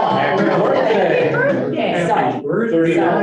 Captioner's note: table pounding